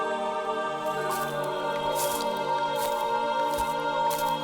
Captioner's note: mysterious music continues; grass crunching